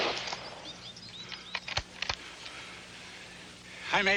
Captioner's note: gun shot